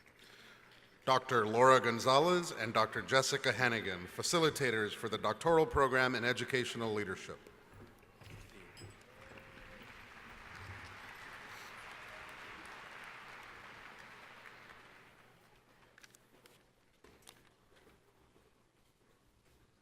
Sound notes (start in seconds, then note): 9.0 applause